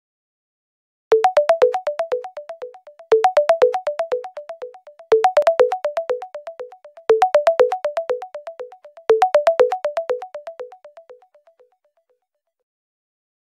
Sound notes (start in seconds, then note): 1.1 sound of ringtone